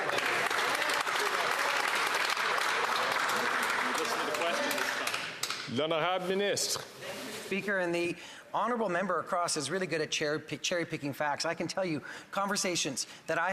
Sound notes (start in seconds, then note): 3.5 some Applause